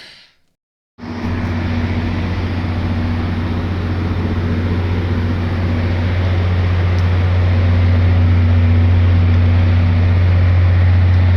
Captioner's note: GP40PH-2B diesel engine idling